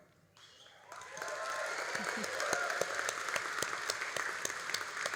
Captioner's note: all applauding